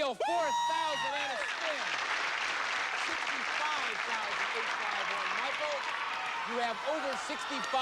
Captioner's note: cheers and applause